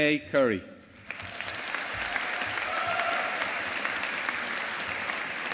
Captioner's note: audience applauding